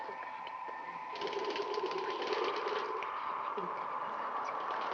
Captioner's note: wings flapping